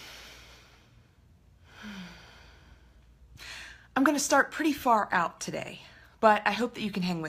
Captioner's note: inhaling and exhaling